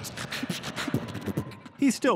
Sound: beatboxing

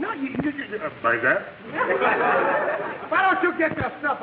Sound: audience laughing

